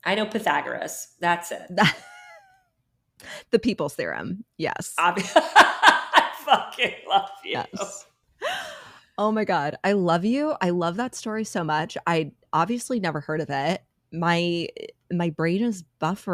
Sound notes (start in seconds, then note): 1.7 laughs